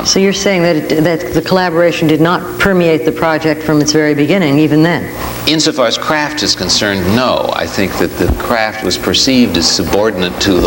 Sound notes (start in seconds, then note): none